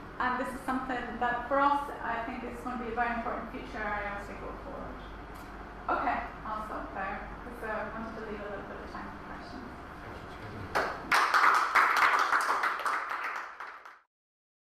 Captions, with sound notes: And this something that for us I think is going to be a very important future area as we go forward. I'll stop there because I wanted to leave a little bit of time for questions. (applause)